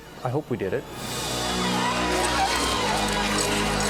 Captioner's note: cheering